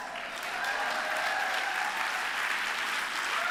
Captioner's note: applause